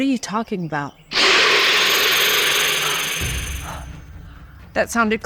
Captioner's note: snake screeches